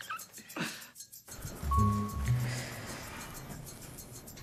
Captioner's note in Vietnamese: chuông thang máy